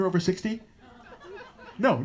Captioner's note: no response from audience